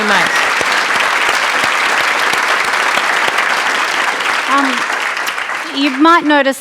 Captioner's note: applause